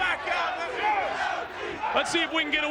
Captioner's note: audience chanting